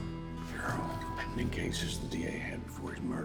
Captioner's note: whispers